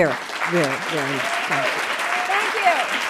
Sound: audience applauding

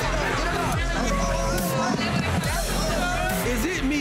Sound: crowd yelling

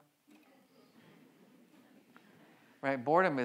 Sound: audience chattering and laughing

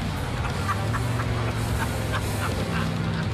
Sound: laughs

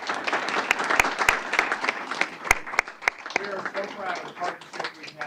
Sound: applause

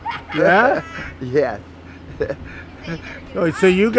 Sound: chuckling

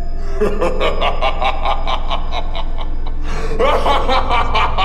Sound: harvester laughing

